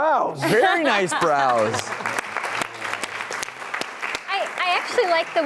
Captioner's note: audience clapping